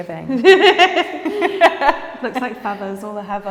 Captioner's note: laughing